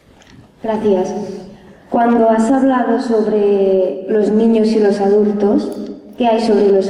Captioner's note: young voice